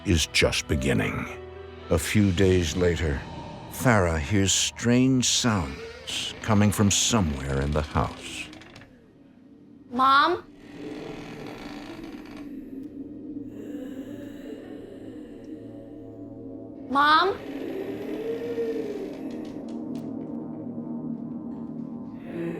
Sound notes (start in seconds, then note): 10.4 creaking; 14.3 eerie breathing